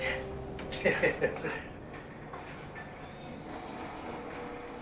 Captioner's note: laughs